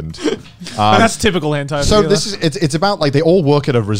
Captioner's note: murmurs